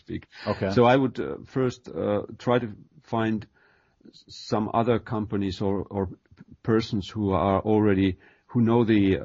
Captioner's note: chuckle